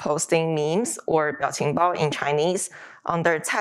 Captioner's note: speaking Chinese